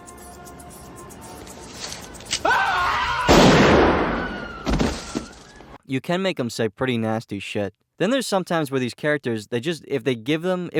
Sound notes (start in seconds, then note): 2.3 click; 3.2 bang